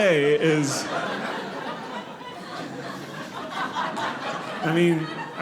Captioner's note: audience laughing